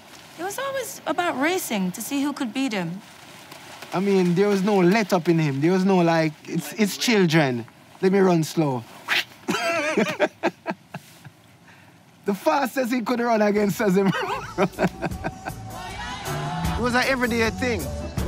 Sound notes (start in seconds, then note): 9.4 laughing